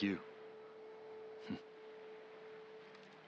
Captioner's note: laugh